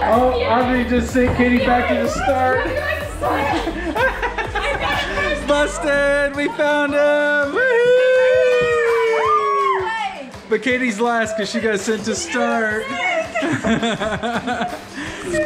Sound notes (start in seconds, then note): 2.0 laughing; 7.2 cheering; 12.8 laughing